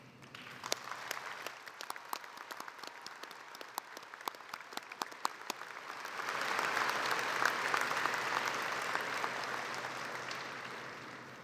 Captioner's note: applause